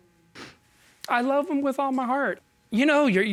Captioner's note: sniffling